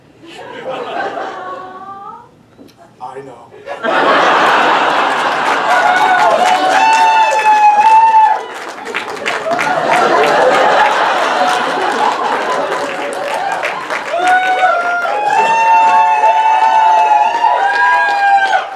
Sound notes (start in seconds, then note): 0.2 audience laughter and "awwww"s; 3.7 audience laughter and cheers